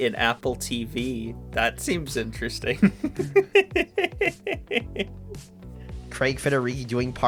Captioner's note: laughs at Apple TV